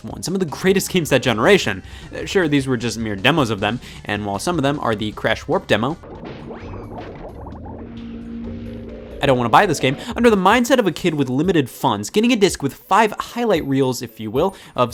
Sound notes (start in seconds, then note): 6.3 water gurgling